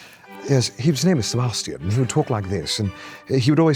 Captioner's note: posh British accent